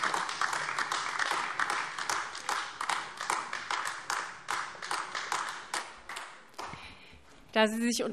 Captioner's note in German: Beifall AfD